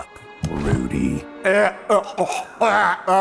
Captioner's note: Rudy gagging; Rudy Voiceover